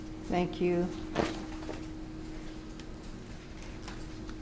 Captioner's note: paper rustles